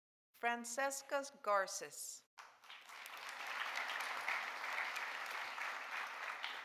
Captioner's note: audience applauding